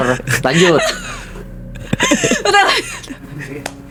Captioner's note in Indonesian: tertawa